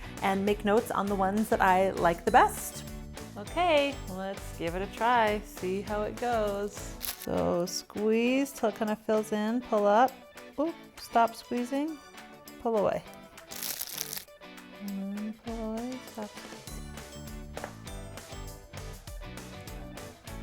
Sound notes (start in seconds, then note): 13.4 bag crunching; 16.8 upbeat music